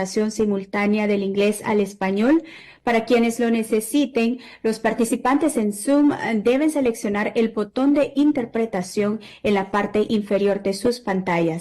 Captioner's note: spanish